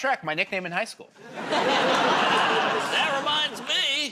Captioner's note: laughter